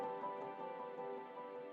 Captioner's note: none